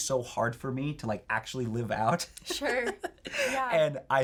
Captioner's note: laughs